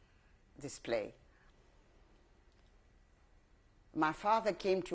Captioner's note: pauses for 3 seconds